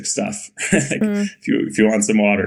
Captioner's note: Bode chuckling